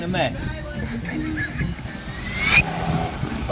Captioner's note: rewind noise